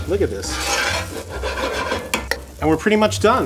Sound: pan scraping

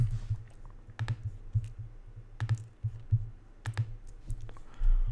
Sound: keyboard clicking

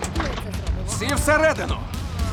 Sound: group groan

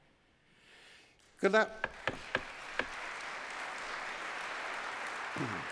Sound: cheers, applause

